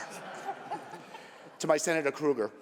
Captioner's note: laughter